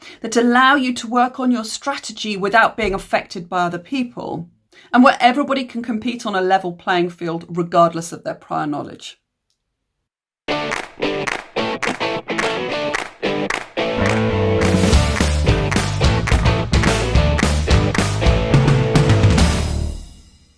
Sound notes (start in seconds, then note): 10.6 claps